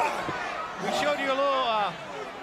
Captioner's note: crowd chatter